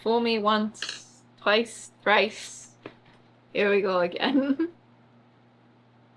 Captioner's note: laughs